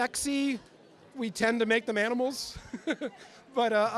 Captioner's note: chuckles